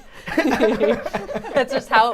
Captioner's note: all laughing